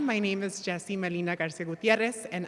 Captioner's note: none